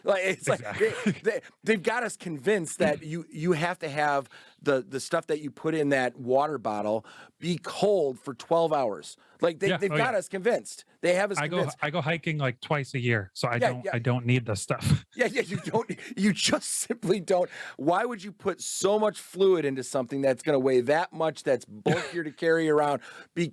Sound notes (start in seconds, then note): 14.8 laughs